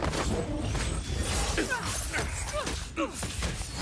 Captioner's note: all grunting